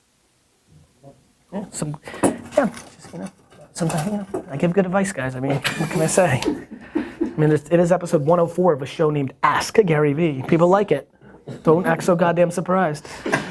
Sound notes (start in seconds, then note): 1.6 murmuring; 6.5 soft laughter